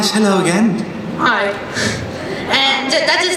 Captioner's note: voiceover